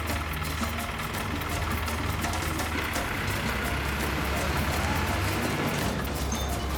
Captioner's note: truck engine idles then accelerates away